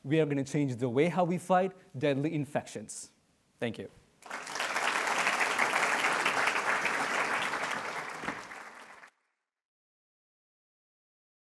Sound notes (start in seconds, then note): 4.2 audience clapping